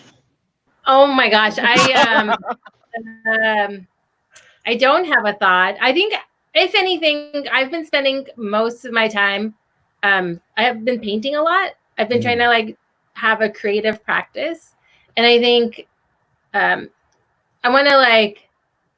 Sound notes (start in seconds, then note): 1.5 laughing